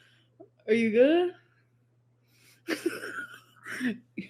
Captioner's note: laughs